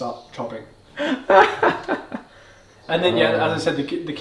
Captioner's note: laughs